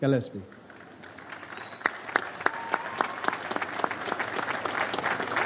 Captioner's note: audience applauds